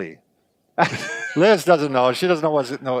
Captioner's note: laughing